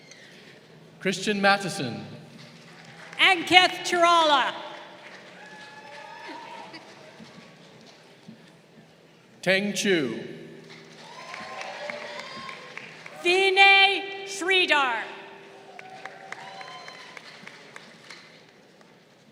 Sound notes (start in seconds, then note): 2.4 crowd applauding; 4.6 crowd cheering; 10.7 crowd cheering